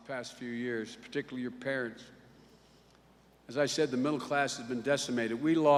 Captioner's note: none